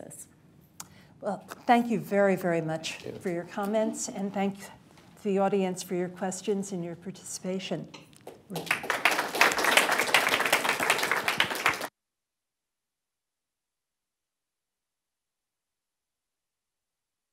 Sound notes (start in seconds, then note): 8.2 applause